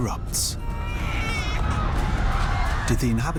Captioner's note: shouting; baby crying